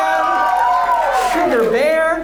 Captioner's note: audience cheers